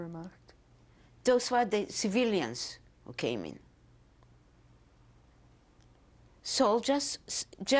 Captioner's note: pauses for 3 seconds